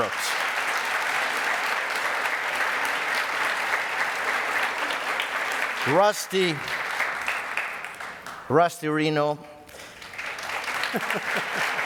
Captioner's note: audience applause